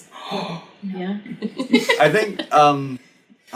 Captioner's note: laughs